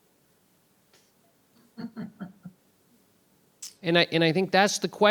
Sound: laughing

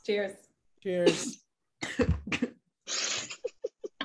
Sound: choking; giggling

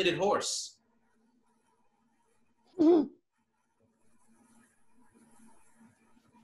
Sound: whimpers

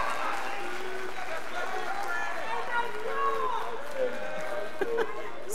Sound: scholars applauding; scholars chattering; women laughs

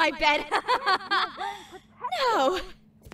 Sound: KOTONOHA laughs inside her head

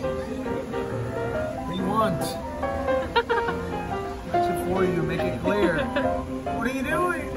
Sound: laughs

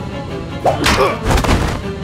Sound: swish, thump, body falls

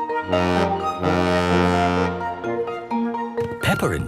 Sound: boat horn honking

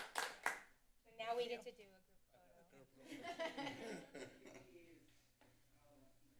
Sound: applause; laughter; background chatter

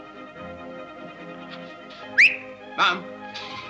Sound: whistles

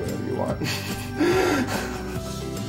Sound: laughs

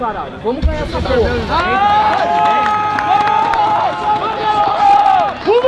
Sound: fans cheering

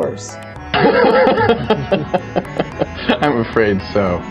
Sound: evil sociopath laghter

